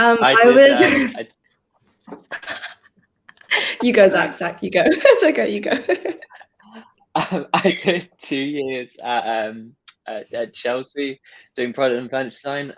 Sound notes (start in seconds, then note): 7.2 giggles